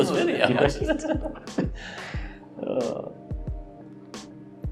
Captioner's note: laughter